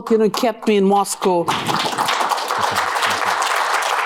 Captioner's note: applause